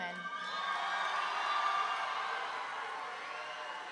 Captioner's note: audience cheering